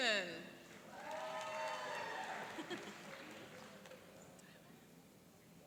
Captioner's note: cheering and applauding